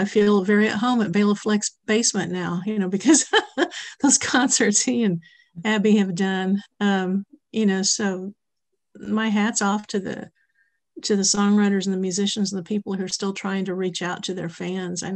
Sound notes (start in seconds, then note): 3.1 laughs